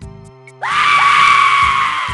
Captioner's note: scream